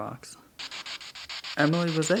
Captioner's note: spirit box sound